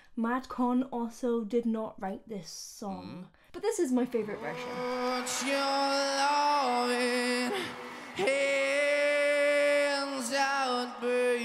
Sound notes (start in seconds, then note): 6.9 audience cheering